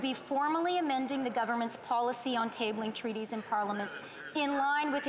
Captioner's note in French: voix de l'interprète